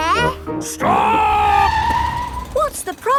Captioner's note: tires screeching